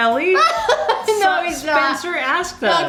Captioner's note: laughing